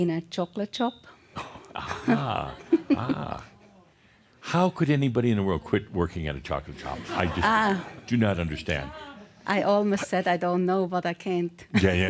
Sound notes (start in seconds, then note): 1.4 she chuckles; 6.7 laughter; 11.4 she laughs